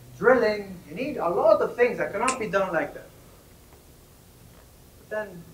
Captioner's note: snaps